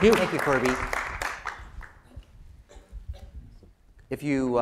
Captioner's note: applause